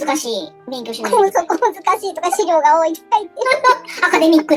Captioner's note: laughs